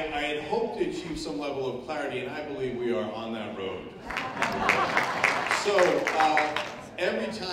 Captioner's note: applause